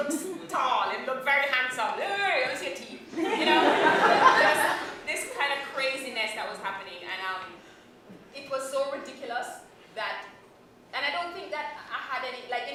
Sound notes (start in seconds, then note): 3.1 laughter